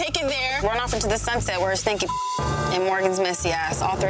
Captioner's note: beep